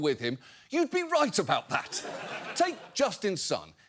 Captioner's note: audience laughs